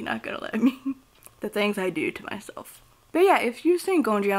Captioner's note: chuckles